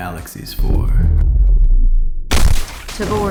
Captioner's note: loud booms